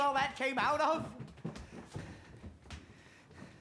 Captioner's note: footsteps departing